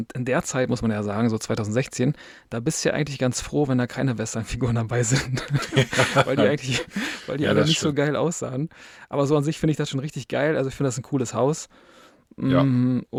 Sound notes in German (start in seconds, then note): 5.1 gelächter